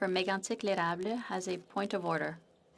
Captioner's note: speaking French